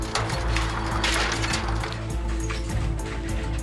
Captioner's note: trash clatters